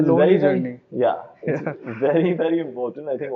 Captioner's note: chuckles